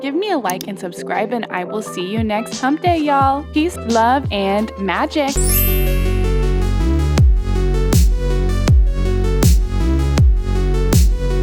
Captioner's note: sparkle sound